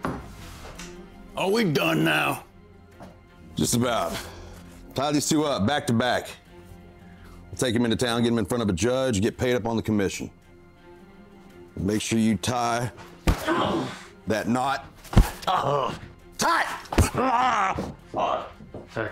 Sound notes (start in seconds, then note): 13.4 Emmett groans; 15.4 Emmett groans